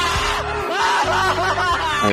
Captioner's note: rad crying